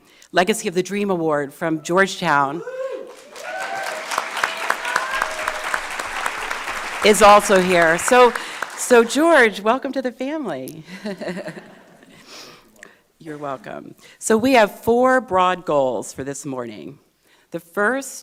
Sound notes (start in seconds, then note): 3.0 audience clapping; 10.9 laughs